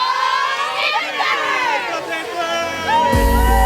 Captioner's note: team cheering